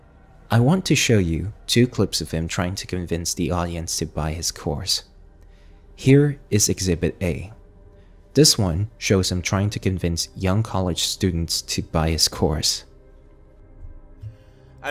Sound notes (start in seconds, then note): none